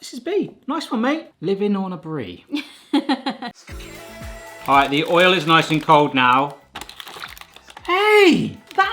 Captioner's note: laughter